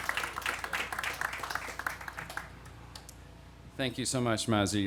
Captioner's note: applause